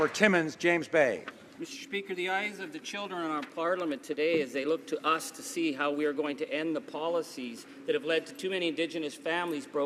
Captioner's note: some Applause